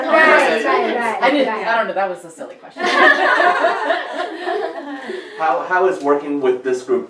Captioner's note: group laughs